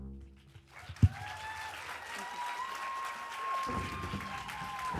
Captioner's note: audience applauds and cheers